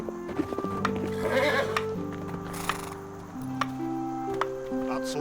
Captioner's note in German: Holz schlagen; Pferd wiehert